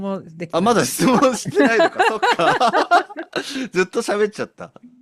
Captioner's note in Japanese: 笑い